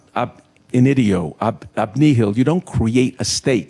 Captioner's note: speaking in foreign language